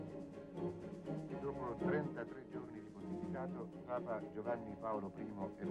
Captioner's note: foreign spoken audio